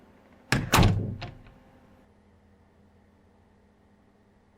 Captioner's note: door bangs shut